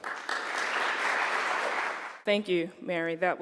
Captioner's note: applause